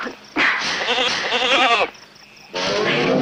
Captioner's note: goat bleats